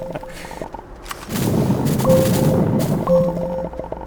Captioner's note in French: en riant; popping